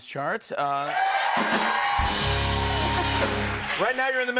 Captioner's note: cheers and applause